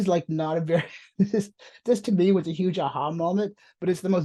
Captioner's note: chuckles